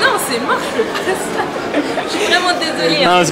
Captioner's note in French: continue de rigoler